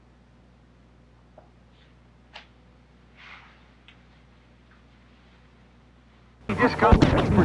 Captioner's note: radio static